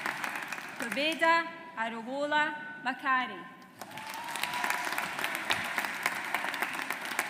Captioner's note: audience applauds